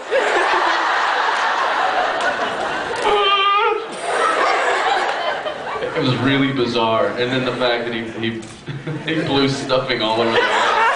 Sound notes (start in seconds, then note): 0.0 teddy bear voice; 0.0 laughs; 10.3 laughing